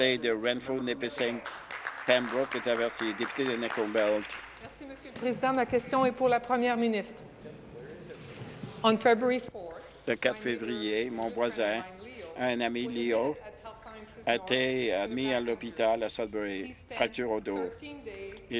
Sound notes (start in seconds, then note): 6.0 applause; 6.8 speaking in French